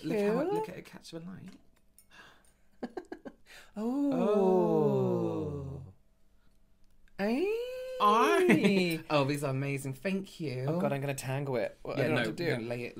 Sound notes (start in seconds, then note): 4.7 Toy Story Aliens Sound When They See The Claw; 7.2 more Excited Noises